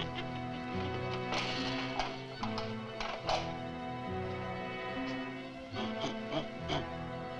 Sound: door thuds; lock clicking

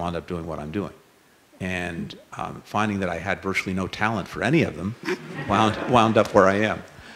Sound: laughter

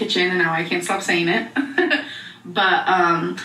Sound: laughs

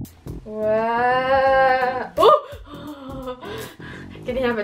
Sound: gasps and laughs

